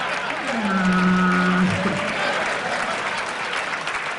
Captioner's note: sad whale sounds